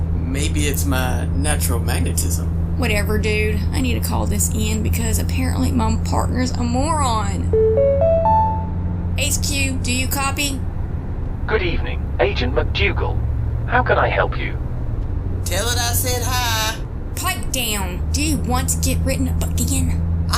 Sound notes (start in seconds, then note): 7.5 notification chime